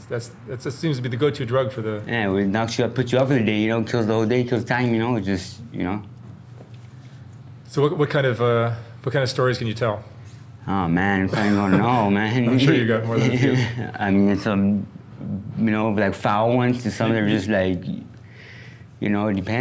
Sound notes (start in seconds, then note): 11.3 laughs